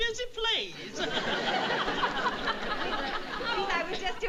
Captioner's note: audience laughing